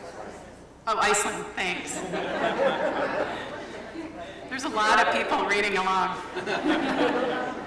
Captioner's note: laughter